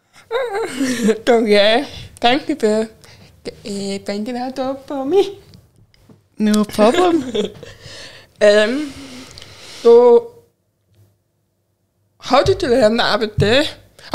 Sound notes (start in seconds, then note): 0.3 laughs; 5.4 chuckles; 6.8 laughs